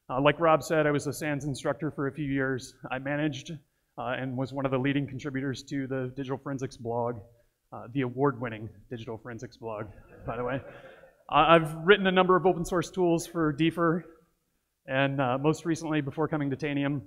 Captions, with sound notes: Like Rob said, I was a SANS instructor for a few years. I managed and was one of the leading contributors to the Digital Forensics blog, the award winning Digital Forensics blog, by the way. (audience laughs) I have written a number of open source tools for DFIR, and most recently before coming to Tanium,